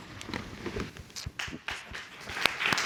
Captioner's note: audience applause